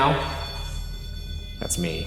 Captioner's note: REM-Pod beeping